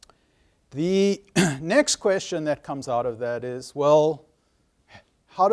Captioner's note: cough